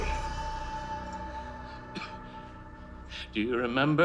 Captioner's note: coughs